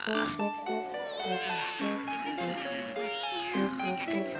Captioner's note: all continue yawning